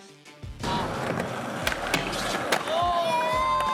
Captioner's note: skateboard sounds and cheers